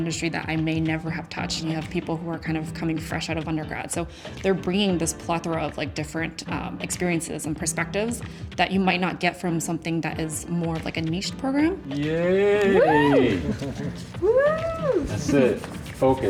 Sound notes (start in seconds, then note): 12.6 laughs